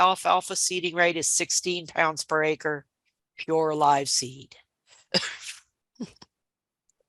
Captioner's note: chuckling